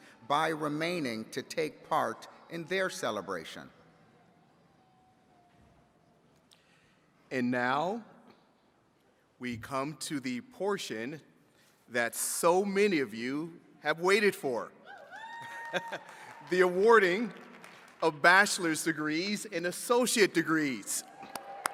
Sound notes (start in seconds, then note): 15.4 chuckles; 16.4 attendees cheering and clapping